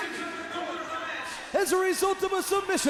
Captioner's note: speaks faintly